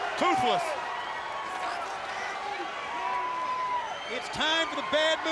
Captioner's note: crowd cheering